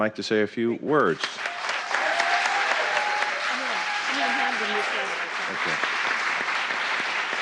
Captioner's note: applause